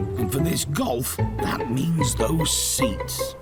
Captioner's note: none